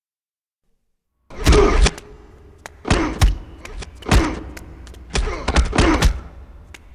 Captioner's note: punches pounding; fighters grunting